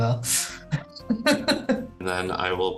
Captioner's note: laughing